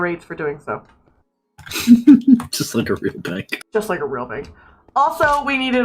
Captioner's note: laughs